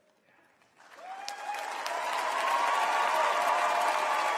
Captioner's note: applause